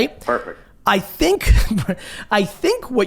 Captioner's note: laughs